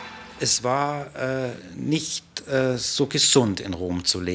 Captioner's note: speaking German